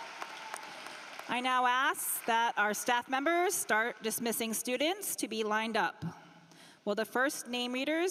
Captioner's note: applause